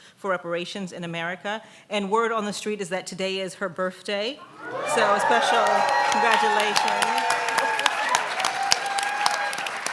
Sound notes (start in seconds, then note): 4.4 audience whooping